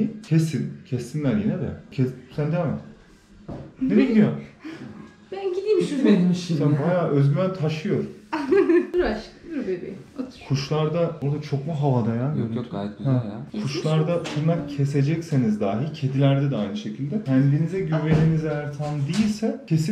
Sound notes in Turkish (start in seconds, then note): 8.3 Gülüşmeler